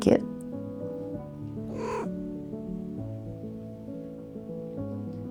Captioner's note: Soot chirrps